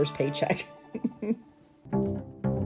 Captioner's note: chuckling; happy music